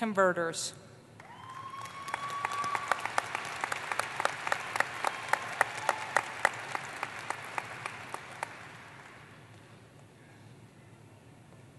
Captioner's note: applause